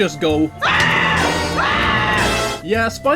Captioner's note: screaming